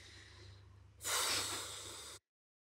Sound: huffs

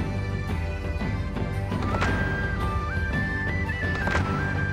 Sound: feet stomping

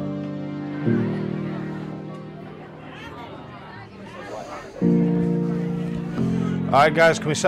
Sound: general chatter

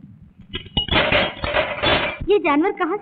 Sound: rattles

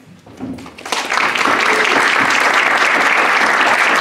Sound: applause

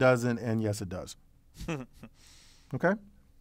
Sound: laugh

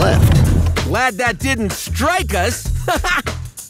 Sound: laughing

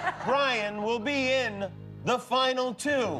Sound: laughter

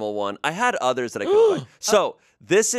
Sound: gasps

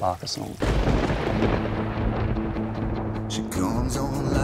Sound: thunder rumbling

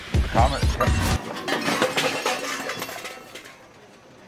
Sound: crashing noises

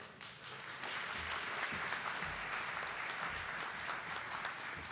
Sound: audience applauding

